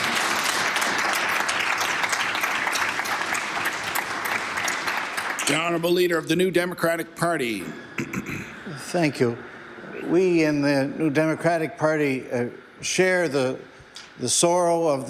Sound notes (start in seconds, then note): 5.0 applause